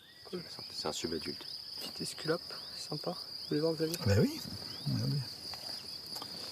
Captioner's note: men speaking in foreign language